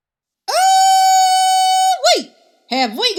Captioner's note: melon hollering